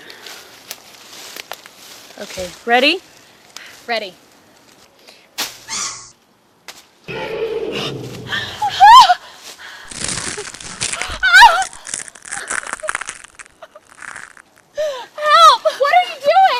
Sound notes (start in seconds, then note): 4.2 loud roar; 7.1 screaming; 8.2 biting and crunching noises